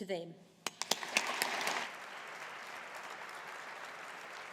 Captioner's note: audience applauding